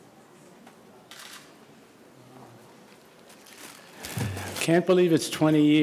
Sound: camera shutter clicks

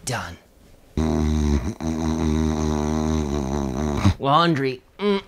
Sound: wife snoring

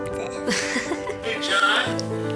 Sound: laughing

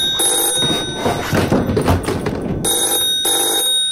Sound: loud thuds; loud ringing

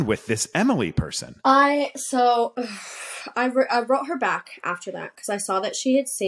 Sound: sighs

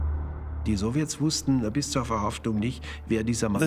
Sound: speaking German

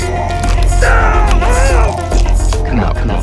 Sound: bone fractures; demonic voice

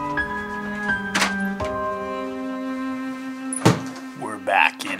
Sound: bag dropping on the floor; door shutting

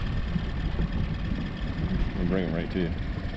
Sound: boat engine idling

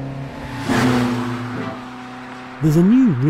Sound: car roars

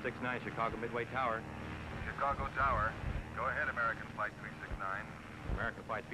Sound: man on microphone

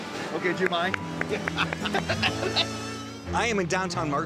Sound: clapping; laughs

